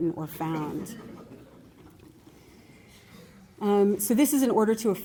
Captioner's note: laughter